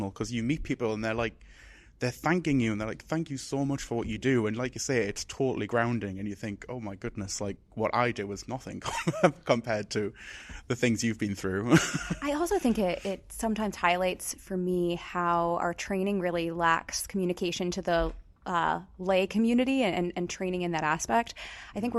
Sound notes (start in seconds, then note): 8.8 laughs